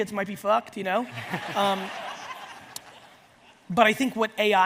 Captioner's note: audience laughs